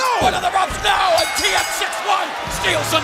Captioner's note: bell ringing